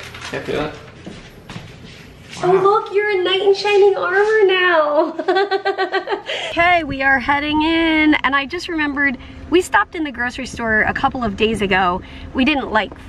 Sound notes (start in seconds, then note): 4.9 laughs